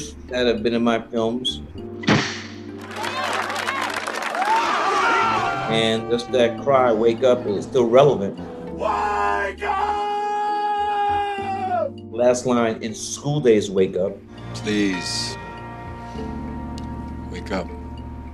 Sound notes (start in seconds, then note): 2.8 applause; 4.7 yelling; 8.3 shouting